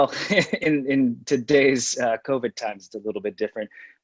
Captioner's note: laughs